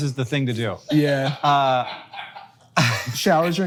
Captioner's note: producer laughs